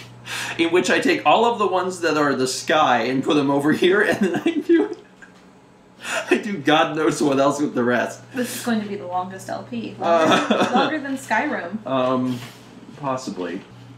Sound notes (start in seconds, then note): 5.2 muffled laughter